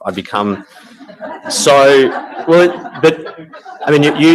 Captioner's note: audience laughing